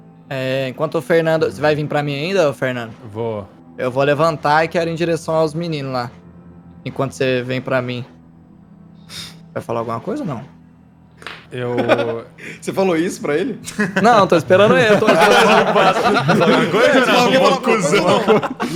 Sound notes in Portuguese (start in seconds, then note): 13.6 Risadas